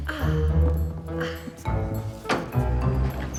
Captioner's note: men laughing; lift rattling